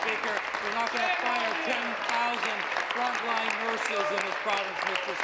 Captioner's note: applause and cheering